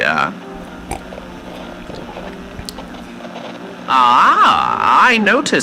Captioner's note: drinking wine fx